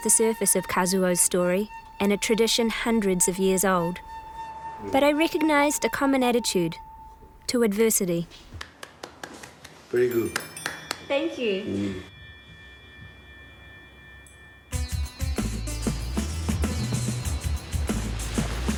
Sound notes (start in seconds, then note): 8.5 claps; 12.8 japanese Music